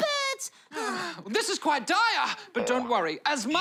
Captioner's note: sighs